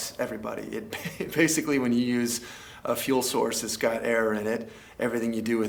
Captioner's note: laugh